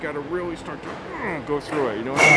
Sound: grunts

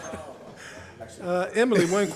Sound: laughter

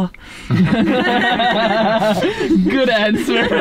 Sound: all laugh

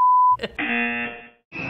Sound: buzzer

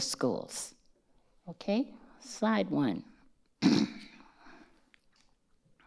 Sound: clears throat

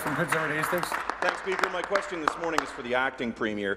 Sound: applause

